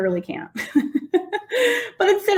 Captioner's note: laughing